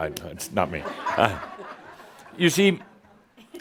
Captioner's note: laughter